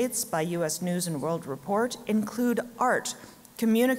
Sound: none

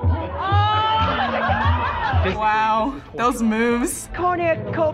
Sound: women laughing

